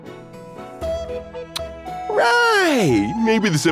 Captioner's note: tsk